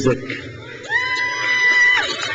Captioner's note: crowd cheers